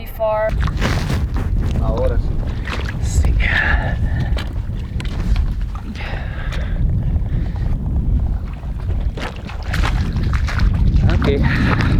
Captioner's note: footsteps in water